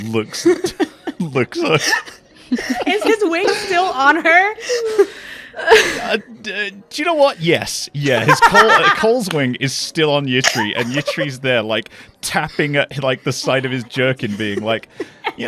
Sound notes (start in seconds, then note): 2.4 laughs; 8.2 laughs